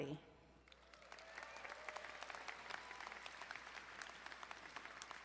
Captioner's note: crowd applauding